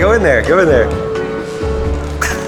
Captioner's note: laughs